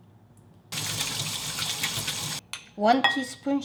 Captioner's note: water splashing